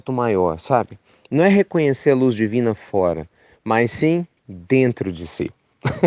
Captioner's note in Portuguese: risos